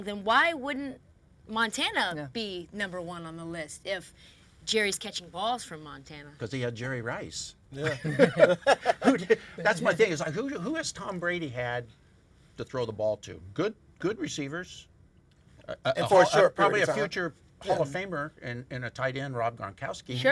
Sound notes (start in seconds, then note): 7.8 all laughing